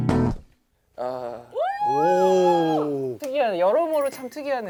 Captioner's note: cheering